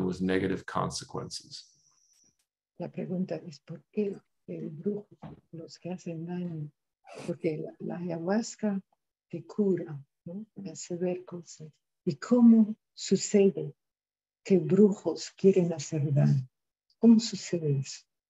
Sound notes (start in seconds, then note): 8.4 speaking in spanish